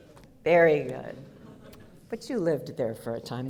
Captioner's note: audience laughter